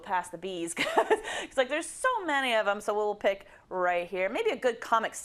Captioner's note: laugh